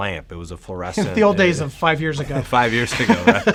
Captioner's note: laughs